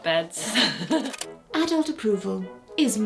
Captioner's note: tape clicking